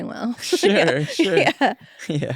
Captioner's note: laughs